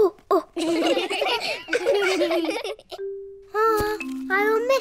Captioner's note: children laughing; all laugh